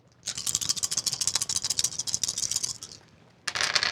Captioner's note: dice rattling